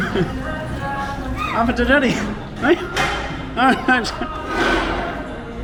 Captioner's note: laughing